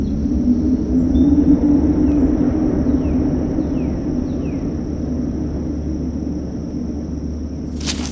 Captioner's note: gusting winds